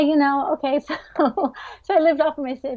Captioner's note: laughs